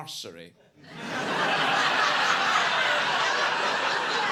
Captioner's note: audience laughing